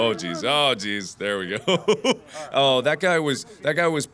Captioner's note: laugh